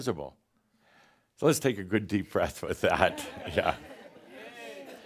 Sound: Adamus chuckles

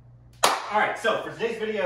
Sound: clap

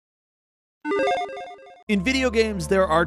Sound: logo chiming

